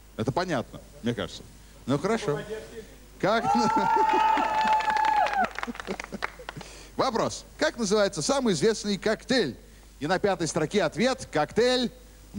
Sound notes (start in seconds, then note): 3.5 applause; 5.6 laughter